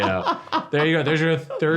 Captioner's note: laughs